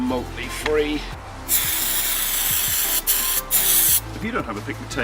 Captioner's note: spray can